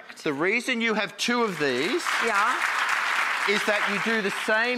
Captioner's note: applause